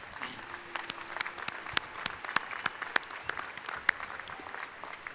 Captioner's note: applause